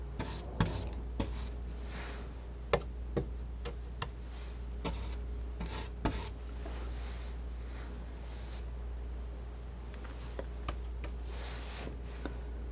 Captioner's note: scratching